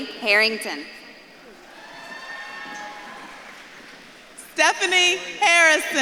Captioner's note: audience claps and cheers